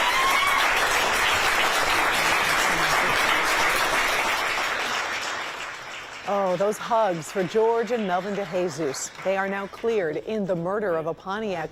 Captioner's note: cheering and applause